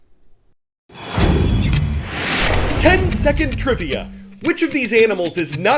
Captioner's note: voice-over